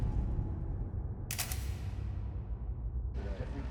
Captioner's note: clicking sound